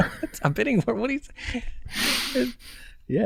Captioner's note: chuckles